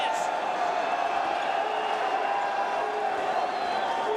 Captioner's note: crowd cheering